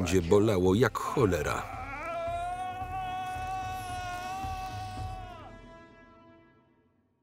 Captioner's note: screams